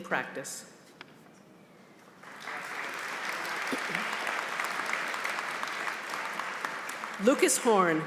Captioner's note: applause